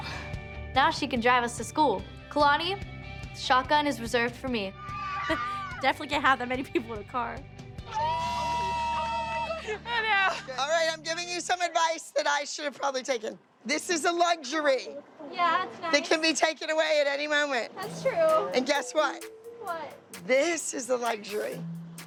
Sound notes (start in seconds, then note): 4.3 chuckles; 6.4 laughing and chattering